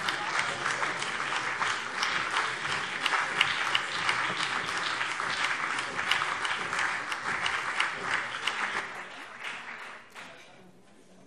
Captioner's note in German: Beifall BÜNDNIS 90/DIE GRÜNEN und vereinzelt CDU